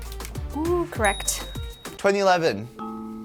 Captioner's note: bell ringing